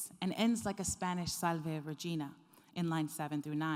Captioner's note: speaking foreign language